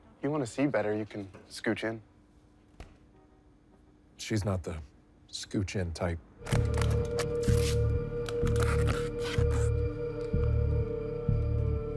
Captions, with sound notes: - If you wanna see better, you can scooch in. (horn honking) - She's not the scooch in type. (ominous music) (plastic bottle crumples) (tape rips)